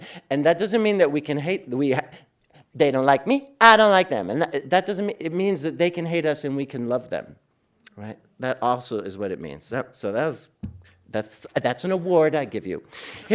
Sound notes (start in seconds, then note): none